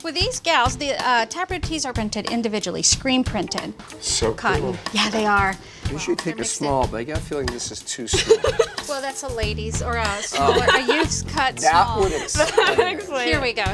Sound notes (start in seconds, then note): 10.2 laughter